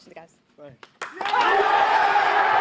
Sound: cheerin

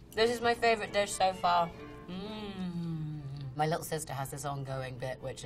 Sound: none

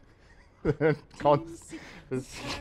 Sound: laughs

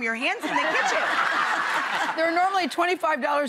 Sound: audience laughs

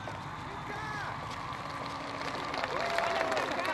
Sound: cheers from the crowd and noises on the crowded street; sounds of the street, a motorcycle, chatter, trumpets, the beach, the ocean

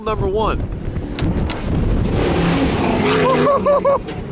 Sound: engine revving

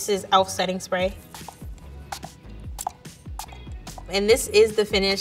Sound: spray whooshing

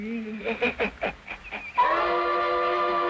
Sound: sinister laughter

